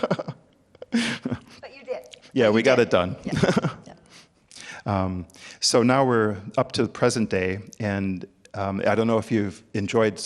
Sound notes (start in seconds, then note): 3.2 chuckles